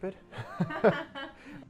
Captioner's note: laughter